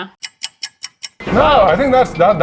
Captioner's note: clock ticking